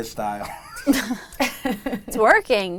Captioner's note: laughs